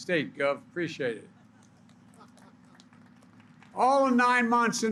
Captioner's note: laughter and applause